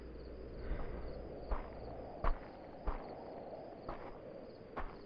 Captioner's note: footsteps crunch